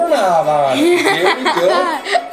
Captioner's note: giggles